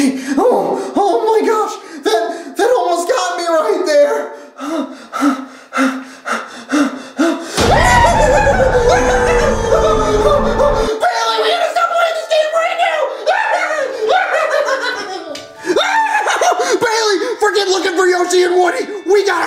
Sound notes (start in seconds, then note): 5.1 panting; 7.6 screams; 13.0 screams